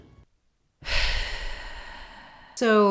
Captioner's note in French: soupire de consternation